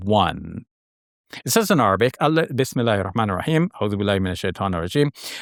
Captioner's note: speaks Arabic